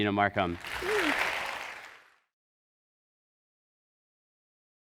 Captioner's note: audience applauding